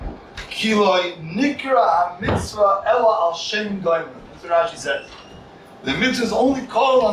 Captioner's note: Hebrew